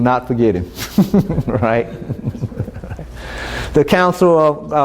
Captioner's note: chuckling